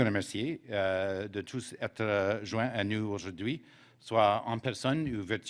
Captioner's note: speaking French